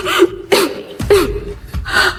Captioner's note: coughing